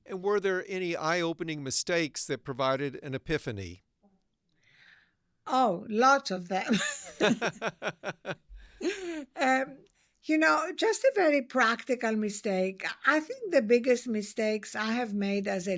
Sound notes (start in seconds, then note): 6.7 laughs